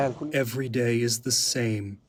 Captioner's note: through translator